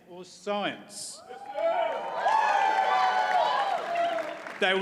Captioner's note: audience cheers and applauds